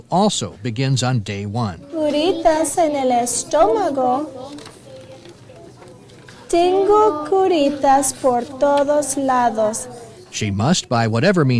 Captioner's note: reading in Spanish